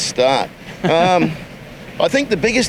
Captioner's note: chuckles